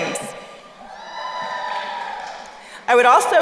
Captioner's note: crowd cheering